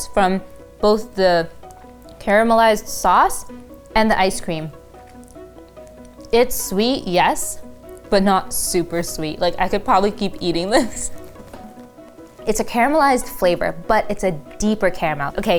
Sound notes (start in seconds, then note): 10.6 chuckling